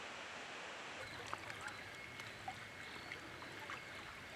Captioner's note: water bubbling